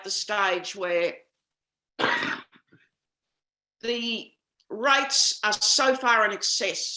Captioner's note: coughs